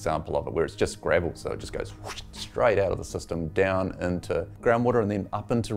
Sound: whoosh

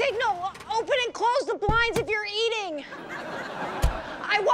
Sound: vehicle door opens, closes

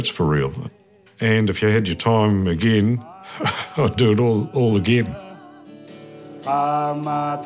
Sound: chuckles

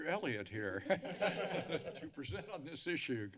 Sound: laughter

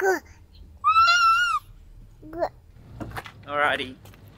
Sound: squealing

